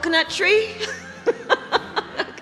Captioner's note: laughs